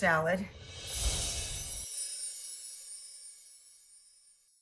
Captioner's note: logo tinkles